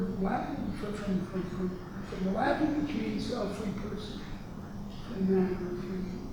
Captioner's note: speaks a foreign language